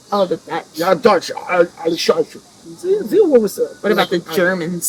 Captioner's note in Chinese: 日耳曼噪音